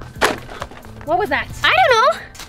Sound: stick whooshes through air; stick clatters on ground

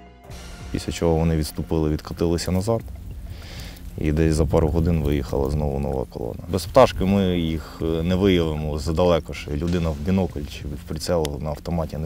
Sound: drone

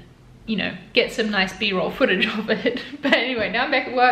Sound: laughs

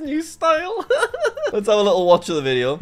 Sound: laughs

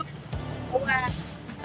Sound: glitchy

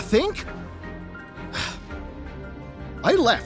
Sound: sigh

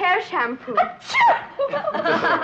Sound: Petronella sneezes; group chuckling

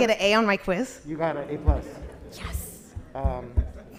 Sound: audience laughs

